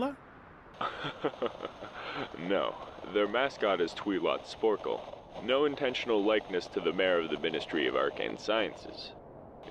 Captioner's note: laughter